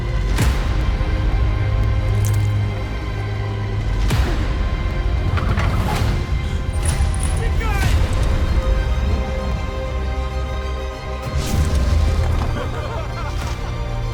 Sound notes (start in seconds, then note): 1.2 tense string music playing; 6.1 gasps; 6.1 screaming; 7.8 dramatic string music playing; 11.3 yelling; 12.2 laughter